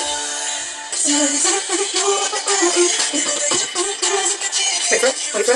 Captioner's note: me humming along